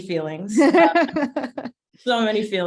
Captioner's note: chuckling